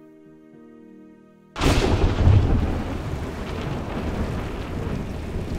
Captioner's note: thunder crashing